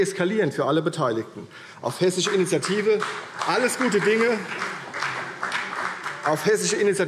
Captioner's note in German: Beifall CDU und BÜNDNIS 90/DIE GRÜNEN